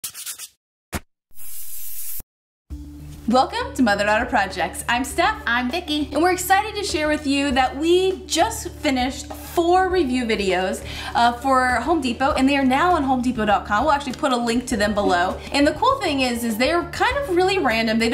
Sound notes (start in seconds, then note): 0.0 spray paint can shakes; 1.3 spray paint can sprays